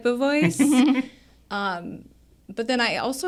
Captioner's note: co-hosts laughing